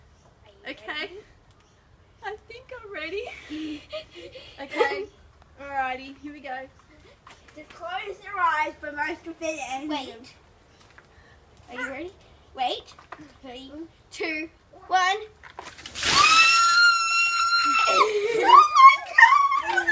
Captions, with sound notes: Okay - I think I'm ready! Alrighty, here we go. Close your eyes! Are you ready? Wait! Three, two one... *Shrieking* OH MY GOD